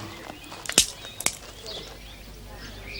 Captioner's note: twig snapping